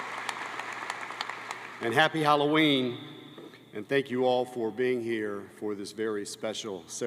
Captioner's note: cheers and applause